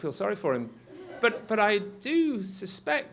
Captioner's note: audience laughs